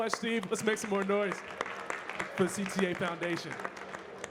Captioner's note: audience clapping